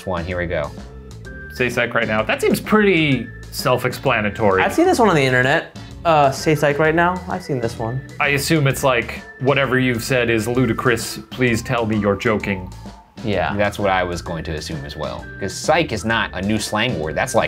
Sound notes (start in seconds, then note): none